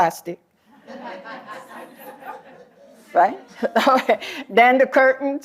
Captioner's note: laughter